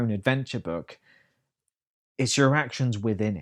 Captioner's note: uneasy silence